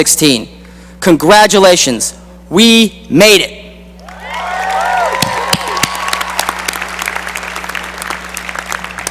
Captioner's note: cheering and applause